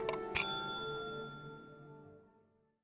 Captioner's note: ding